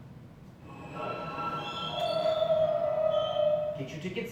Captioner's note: train noises